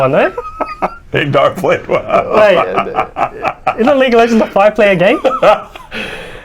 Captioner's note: laughing